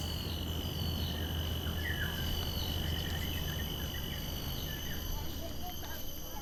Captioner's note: soft chirpings of the cicadas and birds